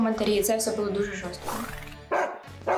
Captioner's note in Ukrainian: гавкання собаки